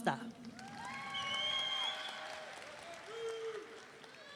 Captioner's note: audience cheering